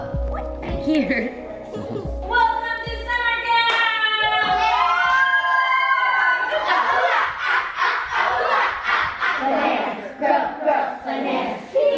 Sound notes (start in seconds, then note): 1.6 laughs; 3.6 kids cheering